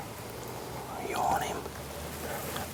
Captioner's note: whispering